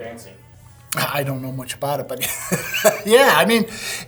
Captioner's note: chuckles